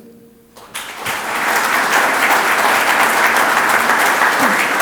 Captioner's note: audience applauds